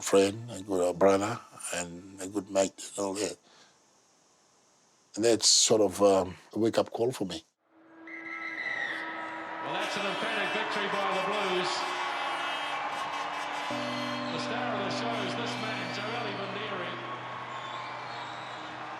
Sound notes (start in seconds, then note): 7.9 whistle blows; 12.2 cheering; 12.2 horns